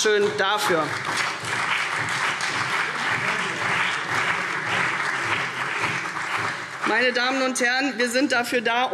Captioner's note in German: Beifall CDU und BÜNDNIS 90/DIE GRÜNEN